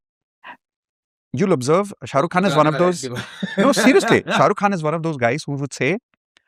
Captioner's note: laughter